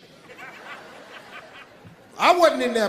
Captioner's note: audience laughing